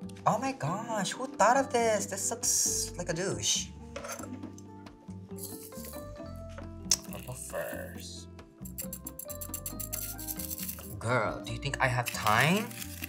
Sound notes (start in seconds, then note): none